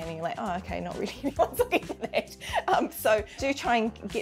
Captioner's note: laughs